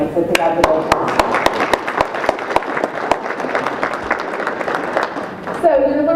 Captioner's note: audience applauds